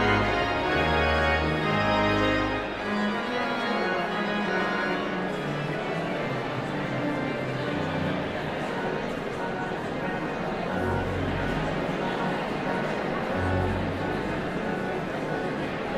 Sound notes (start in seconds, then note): 1.8 audience chatter continues; 1.8 pipe organ music continues